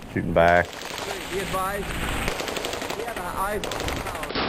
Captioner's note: guns firing